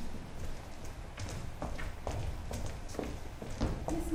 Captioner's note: footsteps pattering